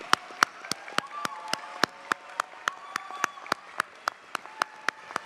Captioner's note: audience cheers and applauds